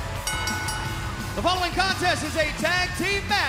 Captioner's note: bell ringing